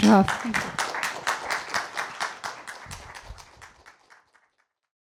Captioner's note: applause